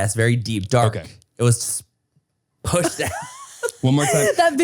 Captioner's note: Manny laughs